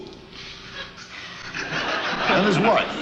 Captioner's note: audience laughs